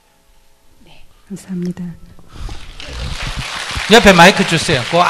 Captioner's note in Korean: 청중 박수